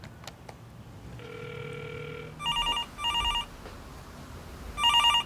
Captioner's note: phone rings